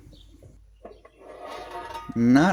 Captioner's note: metal sliding sound